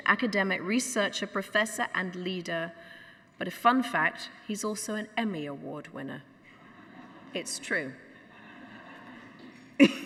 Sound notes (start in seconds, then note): 8.0 audience laughs